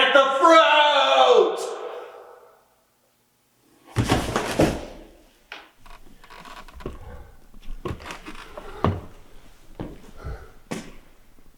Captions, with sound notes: Plant the fruit! (body thuds) (wood creaking)